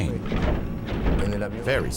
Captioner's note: thumping